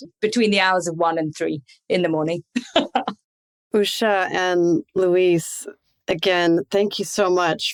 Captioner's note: chuckles